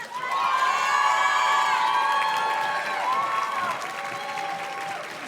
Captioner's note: audience cheers and claps